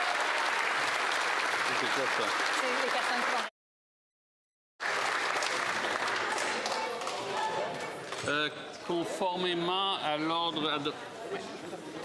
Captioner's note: applause